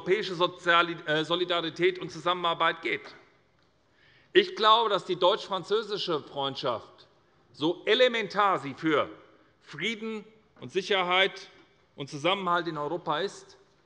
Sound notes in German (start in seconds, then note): none